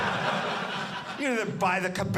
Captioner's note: audience laughing